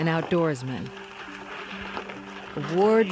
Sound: bicycle on trail

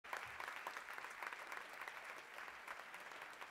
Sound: applause

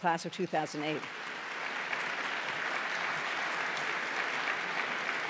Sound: applause

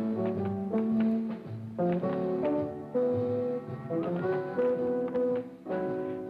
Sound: shoes continue tapping

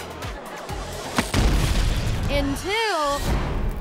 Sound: explosion

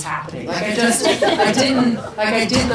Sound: people laugh

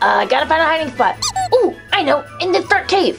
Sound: comical duck squeaks

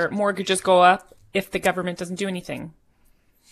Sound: speaking French

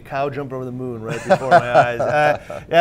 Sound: presenter laughing

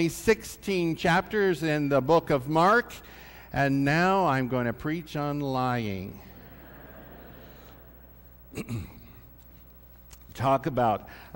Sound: laughter

